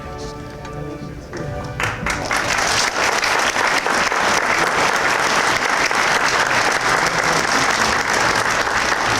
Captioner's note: applause